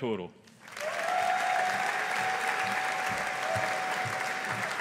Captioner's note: audience applauding